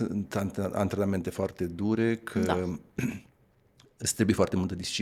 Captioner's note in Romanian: voce dreasă